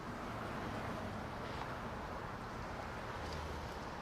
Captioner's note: street noises